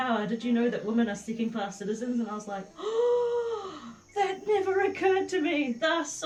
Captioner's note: gasp!